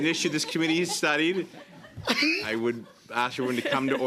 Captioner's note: laughter